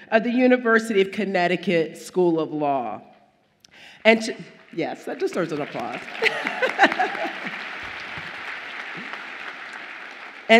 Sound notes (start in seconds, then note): 6.2 laughs; 7.4 audience applauds